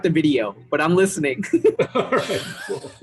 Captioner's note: laughter